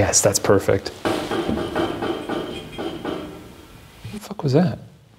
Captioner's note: object banging